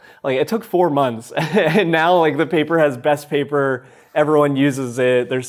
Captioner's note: chuckles